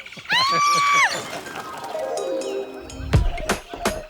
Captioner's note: screaming